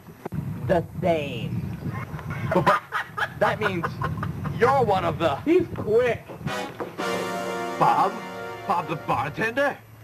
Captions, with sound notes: The same. [ LAUGHTER ] B-But-- That means-- YOU'RE one of the-- He's quick. [ DRAMATIC STING ] Bob? Bob the Bartender?